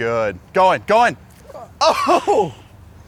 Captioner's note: chuckles